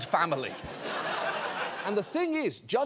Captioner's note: audience laughing